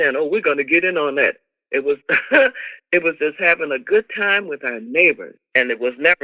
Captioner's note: laughter